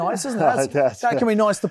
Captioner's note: chuckles